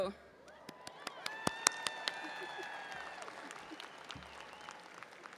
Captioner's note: audience applauding and cheering